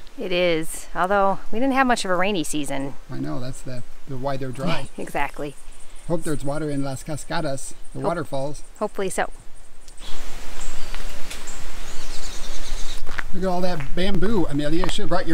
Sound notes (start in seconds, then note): 4.5 laughs; 10.1 birds tweeting